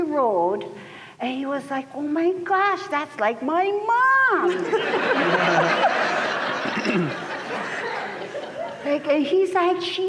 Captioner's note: laughter